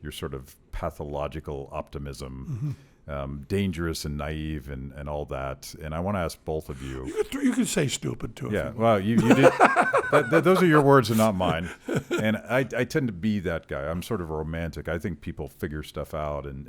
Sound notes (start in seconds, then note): 9.1 laughs